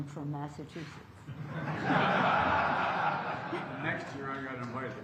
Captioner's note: laughter